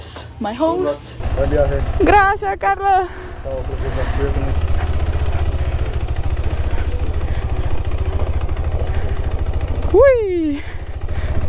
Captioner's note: in Spanish